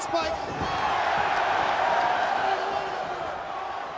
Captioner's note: crowd cheers